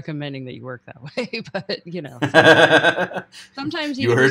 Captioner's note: laughing